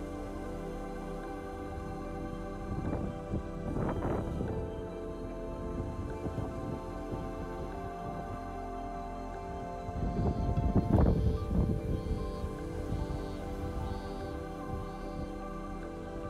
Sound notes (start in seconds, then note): none